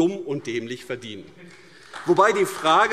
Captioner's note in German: Beifall AfD